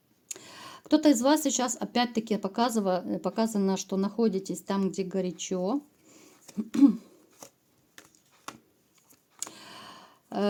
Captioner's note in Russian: откашливается